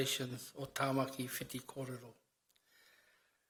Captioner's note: speaks in foreign language